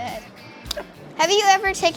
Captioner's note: hands slap